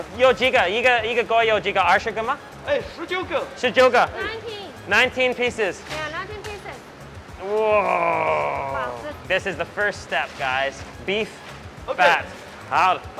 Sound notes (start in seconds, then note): 2.7 both speak Mandarin